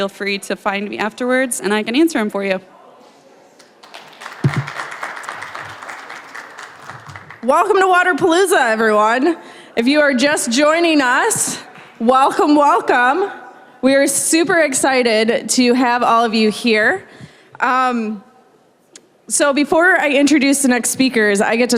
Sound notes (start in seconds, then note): 3.6 applause